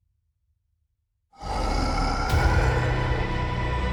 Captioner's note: growling; dramatic music